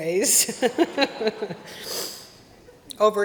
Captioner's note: laughter